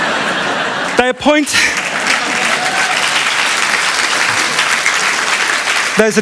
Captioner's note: applause